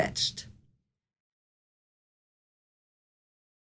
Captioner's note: pause